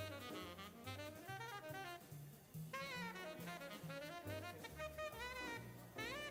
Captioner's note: upbeat jazz music continues; people chattering